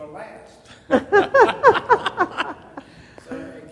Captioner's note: laughter